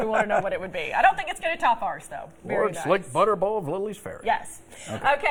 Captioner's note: laughter